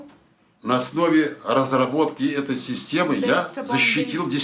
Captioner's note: foreign language